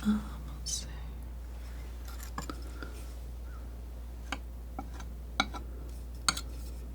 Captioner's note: tapping